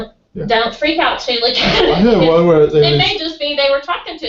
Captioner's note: laugh